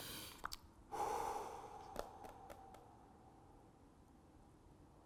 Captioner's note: exhales heavily